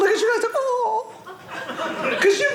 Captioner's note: audience laughing